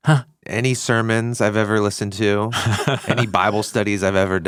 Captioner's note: chuckles